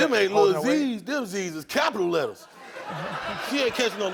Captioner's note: audience laughs